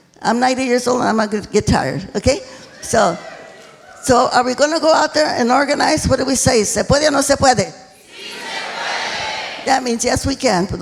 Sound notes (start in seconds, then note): 7.5 speaking foreign language